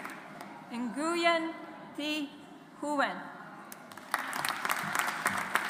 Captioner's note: audience applauds